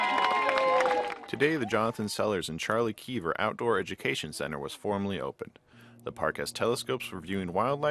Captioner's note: cheers and applause